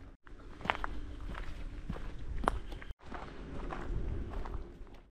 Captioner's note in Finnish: askelten ääniä